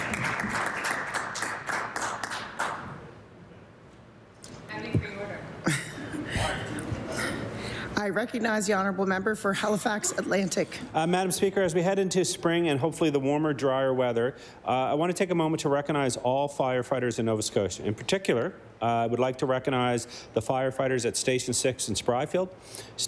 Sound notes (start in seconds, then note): 3.9 applause